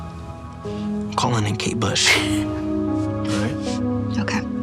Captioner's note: laughs